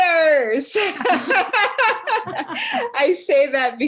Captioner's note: all laugh